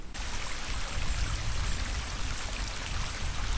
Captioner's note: noise of rain